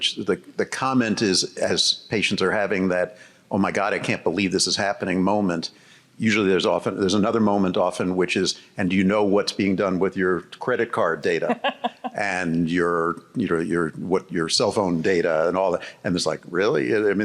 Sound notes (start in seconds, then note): 11.4 host giggling